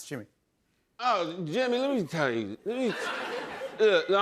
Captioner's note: slurring